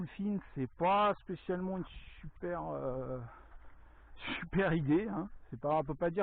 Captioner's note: laughs